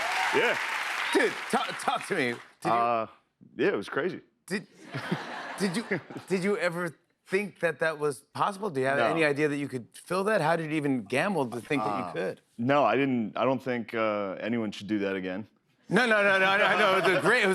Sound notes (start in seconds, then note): 4.8 laughter; 16.6 laughter